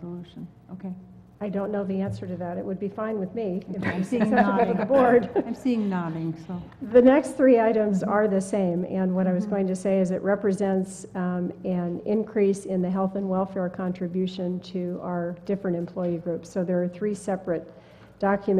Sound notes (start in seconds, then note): 3.8 laugh